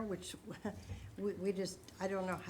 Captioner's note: laughing